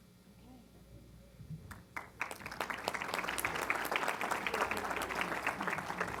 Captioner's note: applause